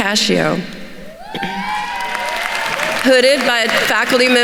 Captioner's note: attendees cheering and applauding